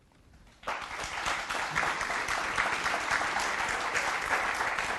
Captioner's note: applause